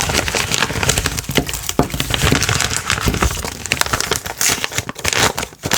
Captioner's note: rustling noises everywhere